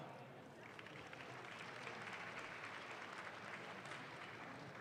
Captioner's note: audience claps